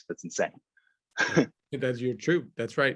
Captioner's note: laughs